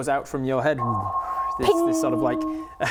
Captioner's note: sonar